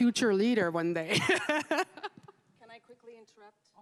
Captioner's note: laughs